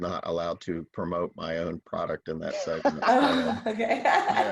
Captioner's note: speaks faintly